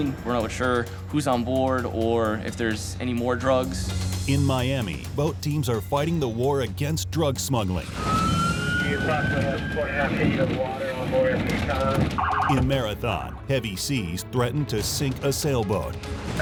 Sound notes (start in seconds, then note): 7.8 siren wailing